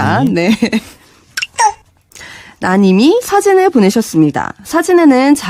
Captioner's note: Kakaotalk notification sound